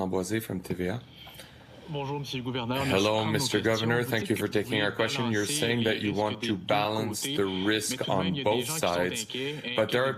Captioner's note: speaking French